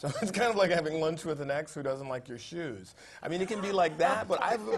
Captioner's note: laugh